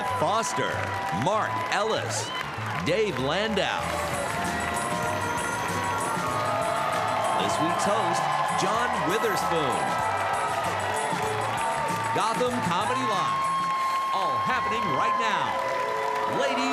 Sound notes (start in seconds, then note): 4.1 upbeat music; 5.7 audience cheering; 11.1 audience cheering